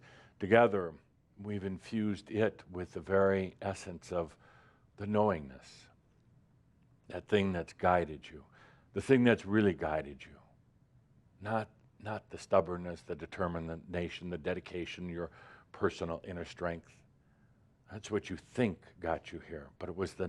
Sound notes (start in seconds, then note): none